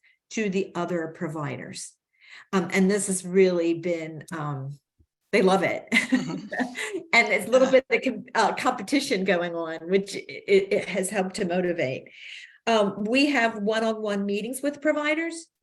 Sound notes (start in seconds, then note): 6.0 laughs